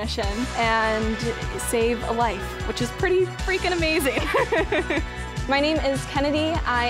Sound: laughs

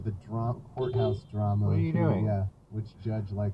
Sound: beepbeep

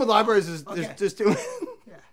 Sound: laughs

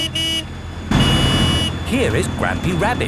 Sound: honking

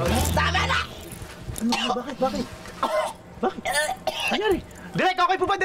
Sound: coughs

